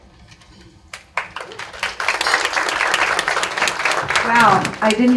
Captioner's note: audience claps